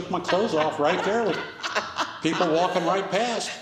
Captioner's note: people laughing